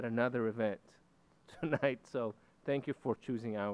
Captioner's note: chuckles